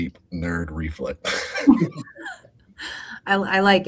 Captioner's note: group laughing